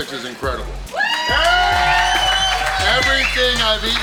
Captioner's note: crowd cheering